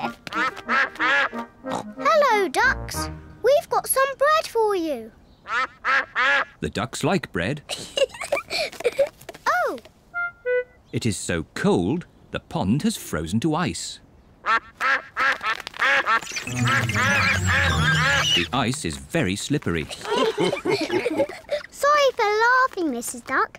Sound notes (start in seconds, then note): 0.0 all quack; 5.4 quacking; 7.7 giggles; 14.4 all quack; 19.8 all laugh